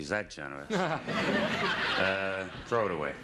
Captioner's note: audience laughing